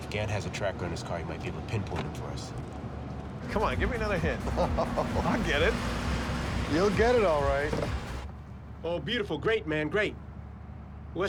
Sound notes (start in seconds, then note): 3.5 laughs